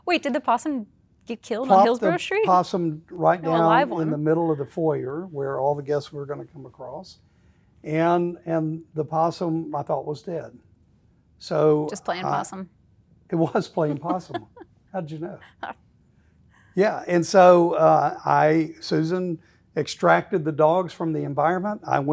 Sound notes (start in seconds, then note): 13.4 laughing